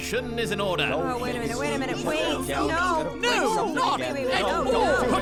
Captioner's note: collective disagreement